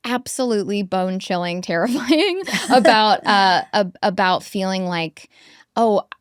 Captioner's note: chuckles